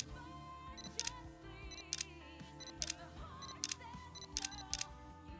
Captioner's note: camera shutter clicking